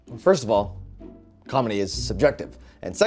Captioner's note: none